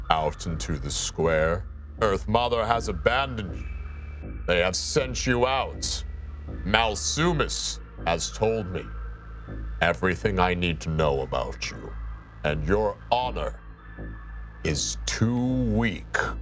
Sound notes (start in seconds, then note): none